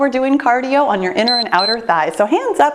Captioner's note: timer beeps